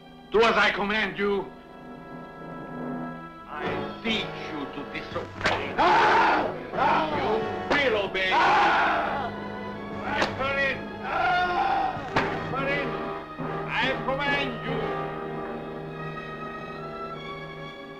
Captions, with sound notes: Do as I command you. I beat you to disobey. You will obey. (Lobo screaming) Strap her in. Strap her in. I command you.